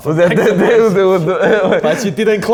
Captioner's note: both laugh